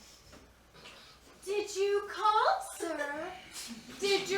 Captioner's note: country accent